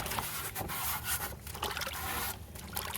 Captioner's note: scrubbing